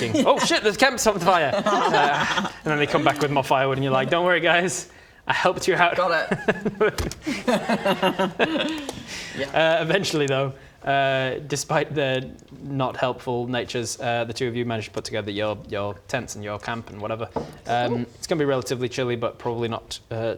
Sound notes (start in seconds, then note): 5.8 giggles